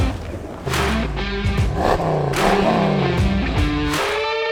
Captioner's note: engine revving